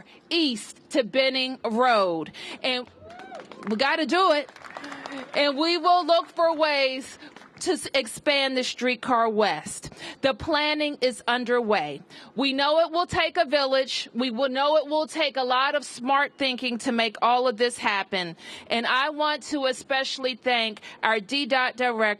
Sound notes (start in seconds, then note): 2.8 applause